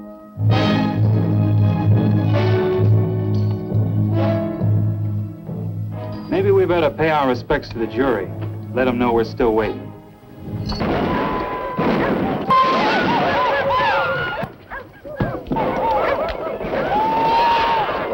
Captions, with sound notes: -Maybe we better pay our respects to the jury, let them know we're still waiting. [GUNFIRE AND WHOOPING]